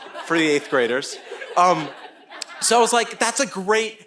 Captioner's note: audience laughing